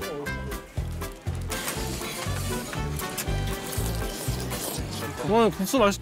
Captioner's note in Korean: 후루룩